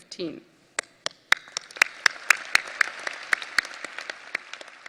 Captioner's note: audience applause